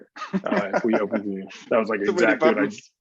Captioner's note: laughing